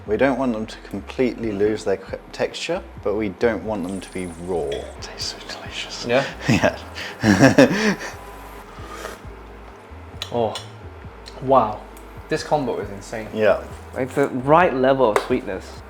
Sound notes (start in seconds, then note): 5.8 laughs